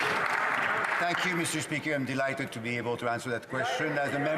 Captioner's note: some Applause